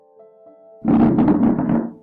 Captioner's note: chair noises